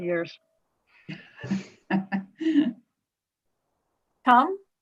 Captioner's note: laughing